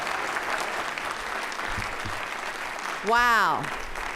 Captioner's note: applause